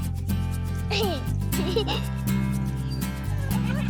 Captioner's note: giggling